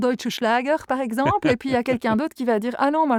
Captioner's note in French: Rires